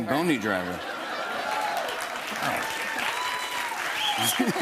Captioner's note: cheers and applause; laughs